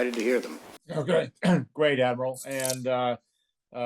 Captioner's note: cough